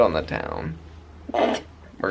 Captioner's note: snorts